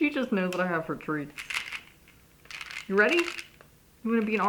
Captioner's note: shaking treats